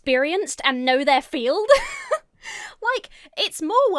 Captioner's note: giggles